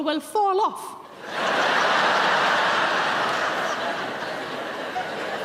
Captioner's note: audience laughing